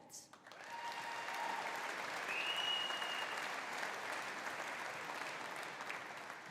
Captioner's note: audience applauding; audience cheering